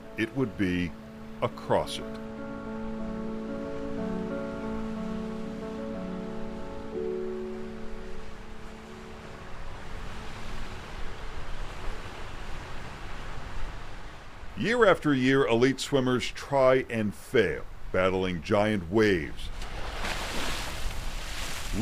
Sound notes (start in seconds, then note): 2.3 instrumental music continues; 7.3 waves roaring; 20.0 waves crashing